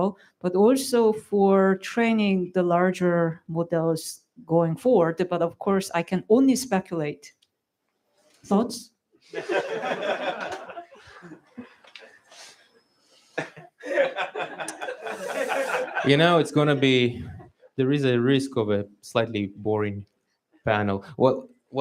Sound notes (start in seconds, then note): 9.3 laughter